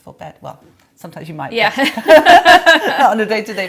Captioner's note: laughs